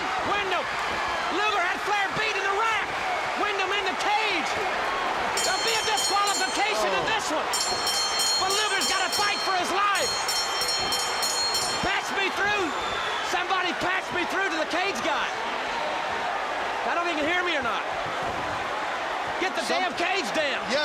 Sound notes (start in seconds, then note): 4.7 crowd cheering; 5.7 bell ringing; 9.1 bell ringing; 11.7 bell ringing